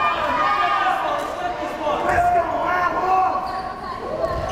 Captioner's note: crowd cheering